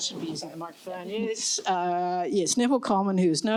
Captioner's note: louder